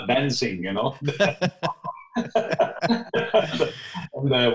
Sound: both laughing

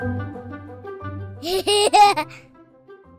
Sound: laugh

